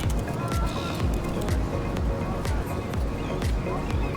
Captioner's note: typing; beach goers talking; ocean waves crashing